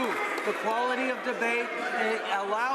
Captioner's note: some Applause